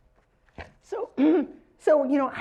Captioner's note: cough